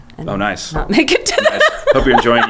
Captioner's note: laughing